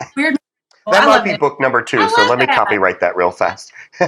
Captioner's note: laugh